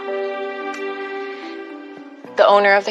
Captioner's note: sobs